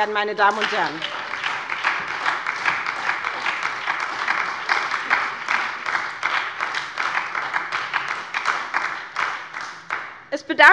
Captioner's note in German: Beifall bei der SPD